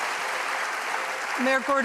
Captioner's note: applause